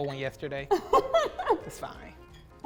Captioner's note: laughs